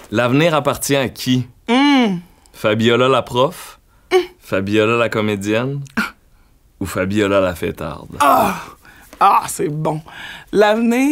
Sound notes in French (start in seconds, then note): none